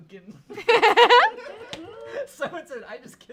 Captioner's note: everyone laughs